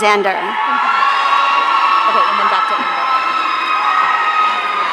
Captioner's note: audience cheering